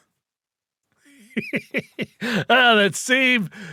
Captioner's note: laughing